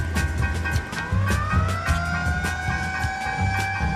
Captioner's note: siren wailing